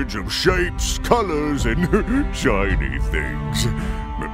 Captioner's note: chuckle